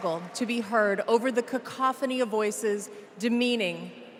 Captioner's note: applause